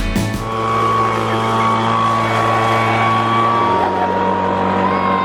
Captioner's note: leaf blower whirring; yells